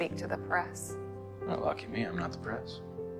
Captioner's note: voiceover